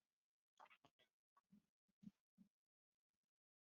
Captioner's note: silence